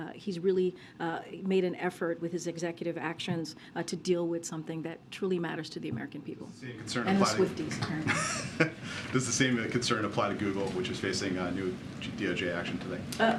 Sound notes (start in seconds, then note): 8.0 laughter